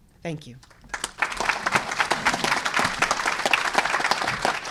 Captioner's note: applause